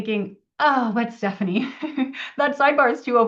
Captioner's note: laughs